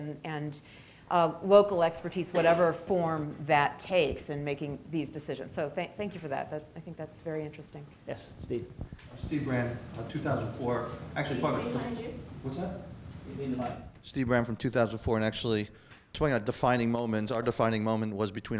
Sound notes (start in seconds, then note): 11.2 people murmur